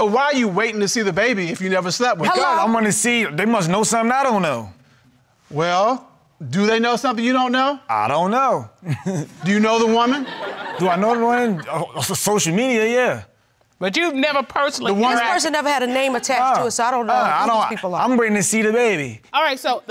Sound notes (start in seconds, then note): 8.8 chuckles